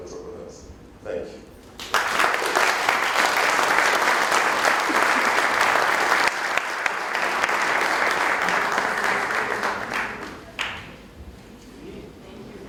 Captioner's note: applause